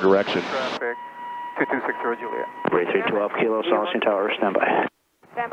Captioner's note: radio murmuring